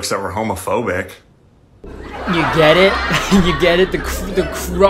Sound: chuckles

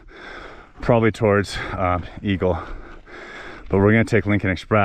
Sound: breathing heavily

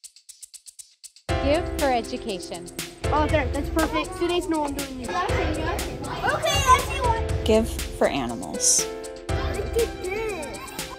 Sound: kids chattering

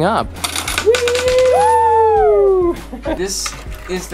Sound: cheers

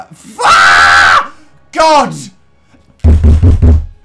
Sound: screams; bangs the table

